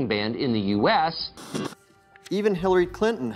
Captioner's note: static buzzing